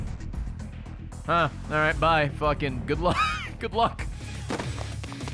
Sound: laughs

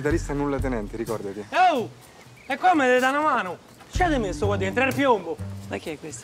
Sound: in Roman dialect

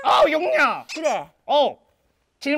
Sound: confident

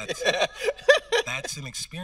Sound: host laughing

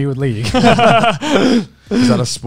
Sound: everyone laughs

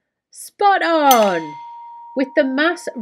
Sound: dinging

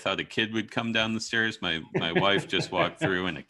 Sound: laughs

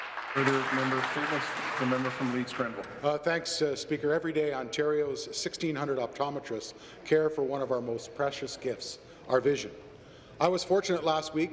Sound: some Applause

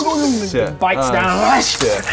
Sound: hrrsch

